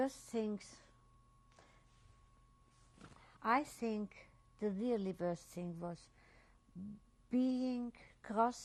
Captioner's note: pauses for 3 seconds